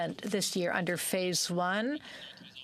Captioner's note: speaking french